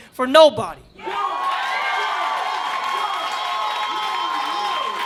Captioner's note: audience cheering